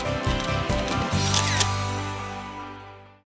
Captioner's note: camera shutters